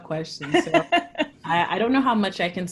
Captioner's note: laugh